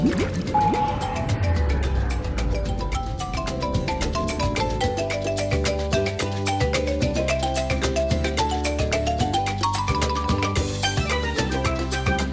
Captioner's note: submarine sounds